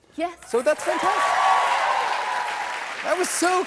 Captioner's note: cheers and applause